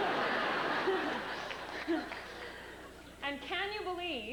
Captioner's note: chuckles